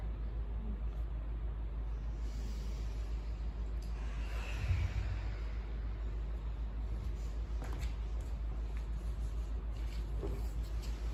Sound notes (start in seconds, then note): 2.1 inhale; 4.9 exhale